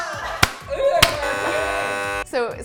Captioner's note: cheering; buzzer